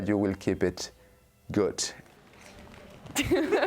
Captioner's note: laughing